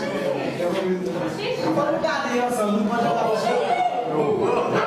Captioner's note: laughing, talking